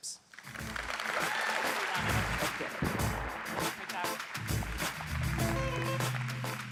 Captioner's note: audience applauds; pop music